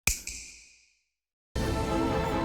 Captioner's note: snap; dramatic music